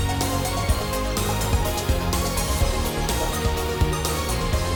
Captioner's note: none